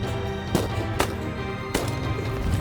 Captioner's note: gun shots